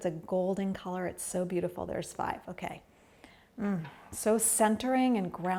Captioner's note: breathes deeply